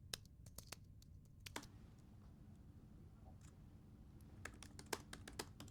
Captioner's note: laptop keyboard clicking; laptop mouse clicks; laptop keyboard clicking